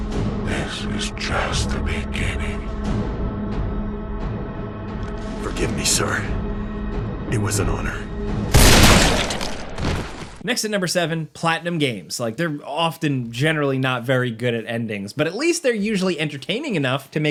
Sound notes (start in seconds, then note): 8.5 gun blasting; 8.6 body thuds